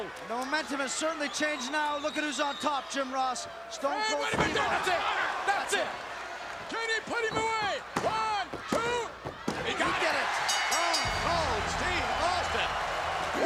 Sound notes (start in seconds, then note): 10.4 bell dinging